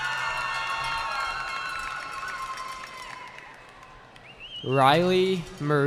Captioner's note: cheering